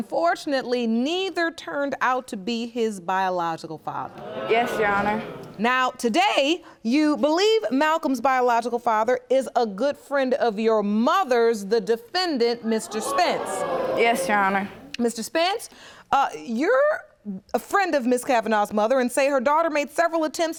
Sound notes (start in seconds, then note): 12.6 audience gasping